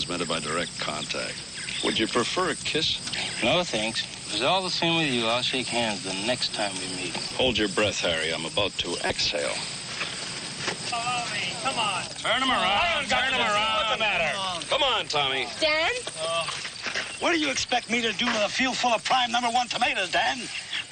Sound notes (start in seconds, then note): 12.6 all yelling